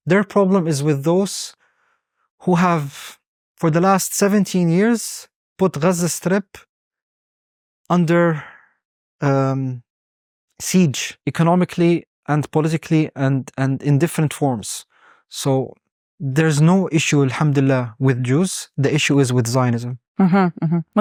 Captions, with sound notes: Their problem is with those who have, for the last 17 years, put Gaza Strip under siege economically and politically and in different forms. So there's no issue (speaking Arabic) with Jews. The issue is with Zionism.